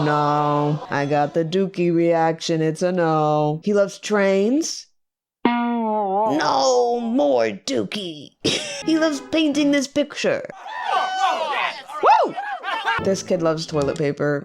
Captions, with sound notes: No I got the dookie reaction. It's a no. He loves trains? [silly sound plays] [strained] No more dookie. He loves painting this picture. [hootin' and hollerin'] Woo! This kid loves toilet paper.